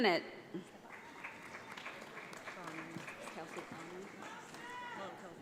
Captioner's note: audience applauds